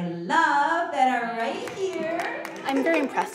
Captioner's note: audience applauding